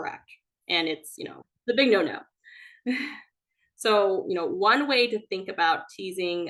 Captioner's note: chuckles